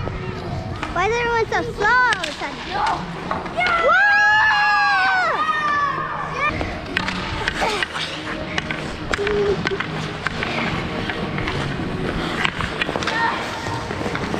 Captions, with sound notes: Why is everyone so slow all of a sudden? (cheering)